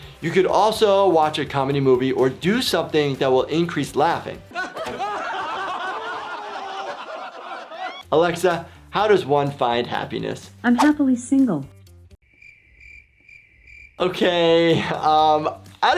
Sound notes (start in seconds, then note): 4.5 friends laughing; 12.2 crickets chirping